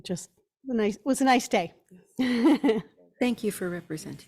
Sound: laughs

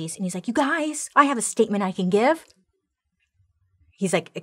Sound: none

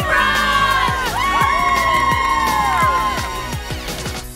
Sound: cheering

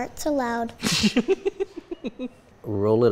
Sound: laughing

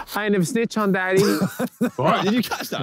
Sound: Simon laughing

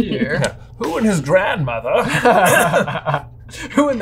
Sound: laughing

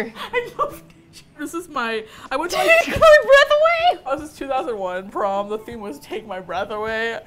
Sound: laughing; laughing

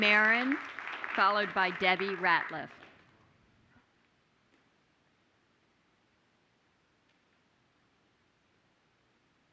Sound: applause

